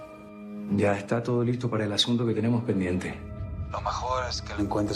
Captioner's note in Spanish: none